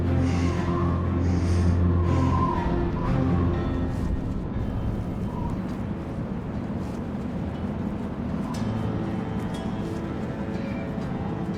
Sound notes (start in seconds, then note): 7.7 wind whistling; 8.4 tense music